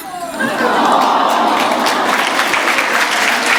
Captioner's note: applause